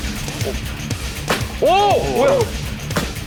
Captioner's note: thud